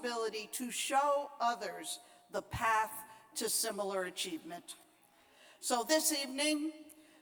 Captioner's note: none